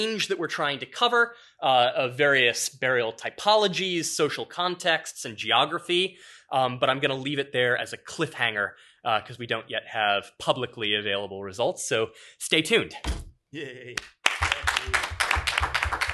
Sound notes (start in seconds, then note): 13.9 applause